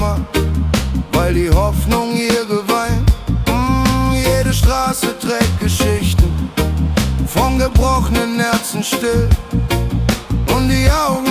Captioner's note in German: Mmmh…